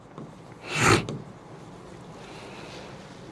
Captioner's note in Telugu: గురకలు